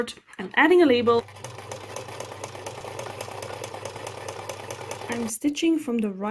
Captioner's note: sewing machine noises